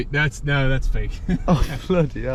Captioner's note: chuckling